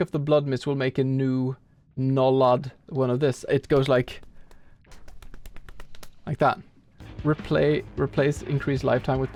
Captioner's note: flap flap flap